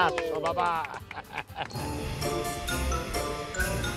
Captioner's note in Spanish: Ríe